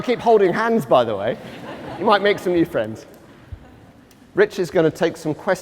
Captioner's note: laughter